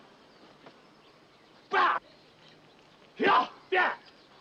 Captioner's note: both grunting